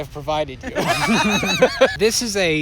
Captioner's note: laughter